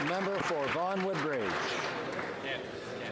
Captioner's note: some Applause